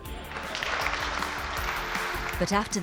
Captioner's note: people applauded